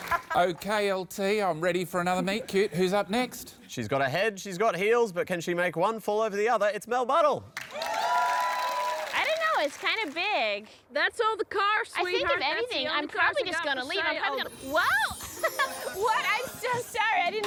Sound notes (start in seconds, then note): 9.1 ditzy american voice; 15.8 laughs